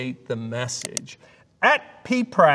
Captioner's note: mouse clicking